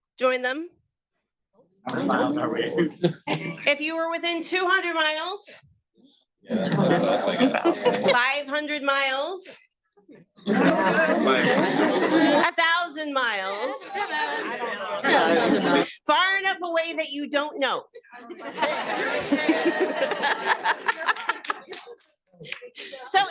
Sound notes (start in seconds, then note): 3.6 attendees chattering; 10.4 attendees chattering; 18.1 attendees chattering; 19.8 attendees laughing and chattering